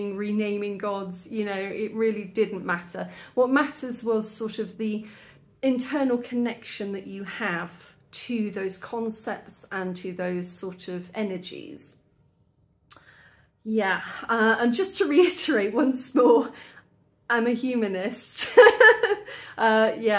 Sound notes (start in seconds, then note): 18.8 laughing